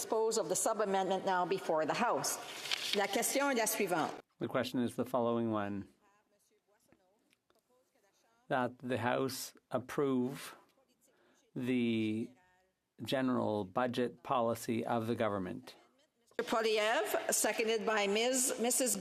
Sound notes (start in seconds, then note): 7.7 speaking French